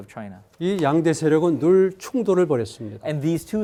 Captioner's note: speaking in Korean